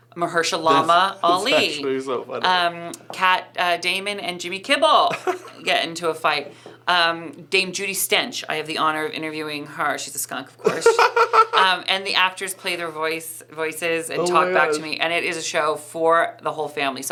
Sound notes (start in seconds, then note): 10.6 laughing